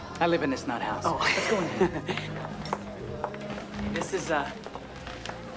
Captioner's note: laughs